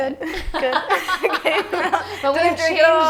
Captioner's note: laughing